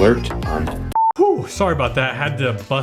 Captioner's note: beep